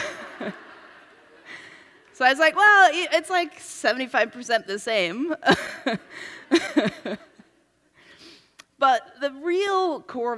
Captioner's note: laughs